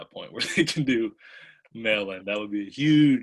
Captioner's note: laughs